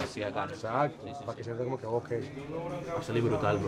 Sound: both continue in Spanish

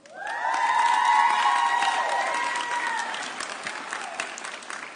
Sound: audience cheering

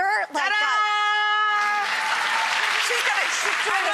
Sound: audience applause

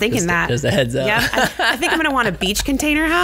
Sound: laughs

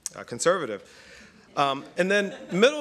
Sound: laughter

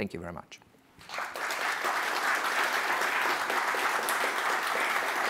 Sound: audience applauds

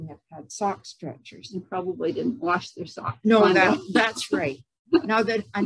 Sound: mumbled laughter/talked

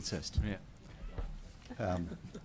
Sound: laughter

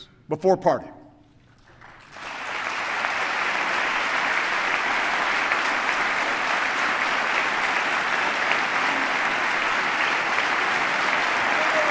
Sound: applause

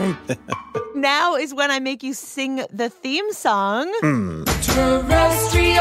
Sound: both laugh

